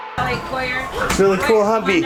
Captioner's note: chattering